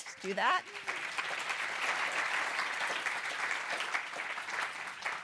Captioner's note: applause